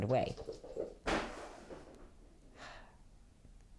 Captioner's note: pitter-patter of paws followed by loud crash